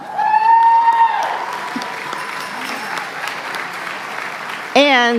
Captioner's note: applause